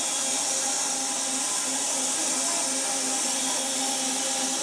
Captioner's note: saw whirring